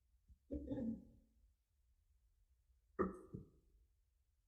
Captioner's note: person clears throat